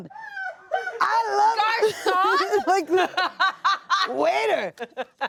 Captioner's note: laughs